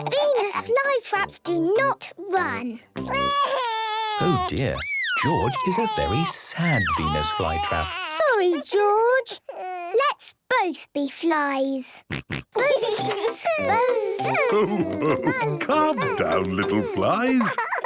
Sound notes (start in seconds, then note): 13.3 both buzzing